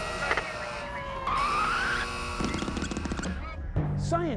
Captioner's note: siren wailing